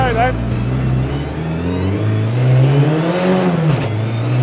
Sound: engine revving

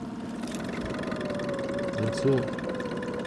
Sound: winch motor running

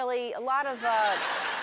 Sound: audience laughs

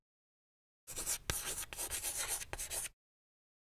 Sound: chalk scratching

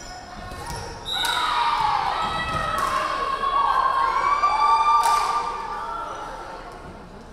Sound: referee whistling; crowd cheering

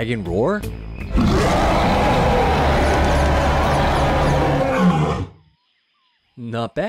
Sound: unnaturally scary roar

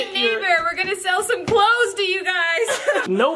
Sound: laughs

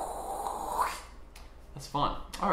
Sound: makes swiping vocal again

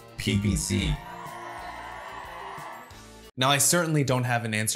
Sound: audience cheering

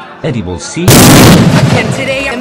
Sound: cue explosion

